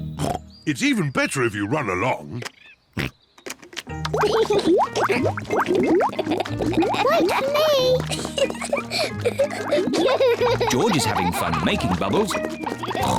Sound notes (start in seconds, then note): 0.1 oinks; 3.0 oinks; 4.5 laughs; 9.0 both laugh